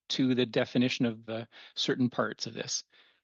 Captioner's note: speaking French